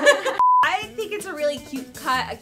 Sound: beep

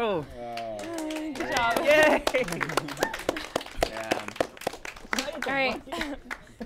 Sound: applause

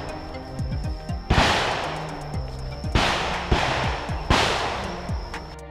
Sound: sound of gunshots

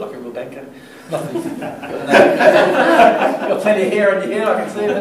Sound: laughter

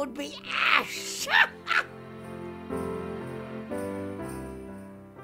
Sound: Zelda laughs

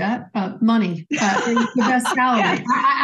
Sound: laughs

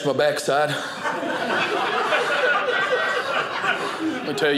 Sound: audience laughing

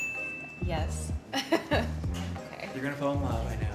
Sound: chuckles

